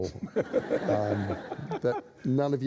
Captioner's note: laughter